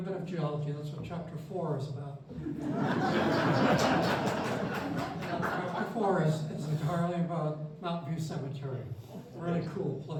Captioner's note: laughter